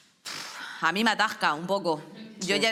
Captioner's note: snort